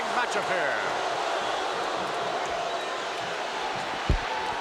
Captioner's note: crowd boos